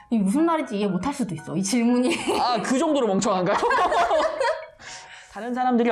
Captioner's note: laughing